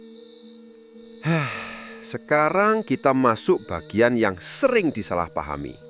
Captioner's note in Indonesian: menghela napas